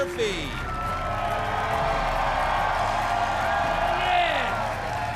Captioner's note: audience clapping and cheering